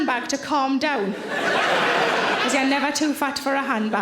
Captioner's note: audience laughing